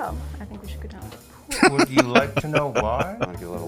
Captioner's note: laughing